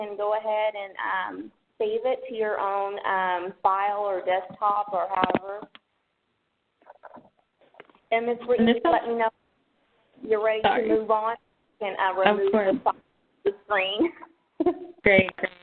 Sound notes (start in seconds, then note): 14.5 chuckles